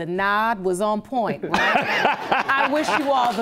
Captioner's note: laughing; audience applauding